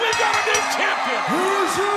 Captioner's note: bell ringing